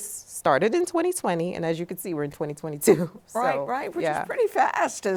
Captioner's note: laughs